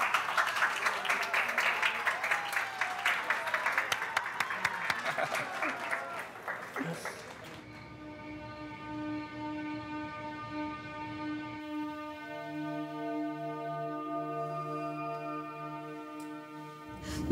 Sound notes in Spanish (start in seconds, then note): 0.0 aplausos; 4.6 exclamaciones